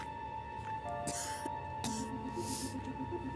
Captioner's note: coughs softly